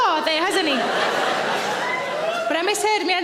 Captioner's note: audience laughing